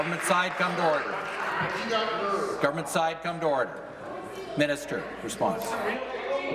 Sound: applause

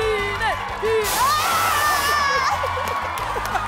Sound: screaming; laughing

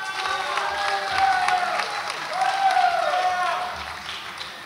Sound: audience applauds and cheers

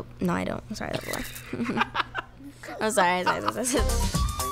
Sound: laughs

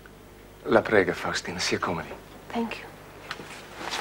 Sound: speaks Italian

